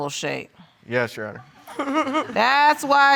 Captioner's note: laughs